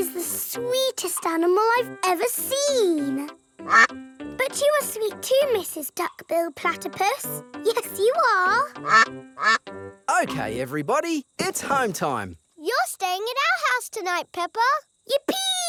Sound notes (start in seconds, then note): 3.6 quacks; 9.4 quacking